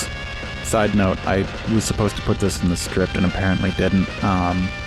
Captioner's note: vocal tone switch